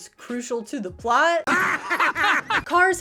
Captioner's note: hysterical car laughter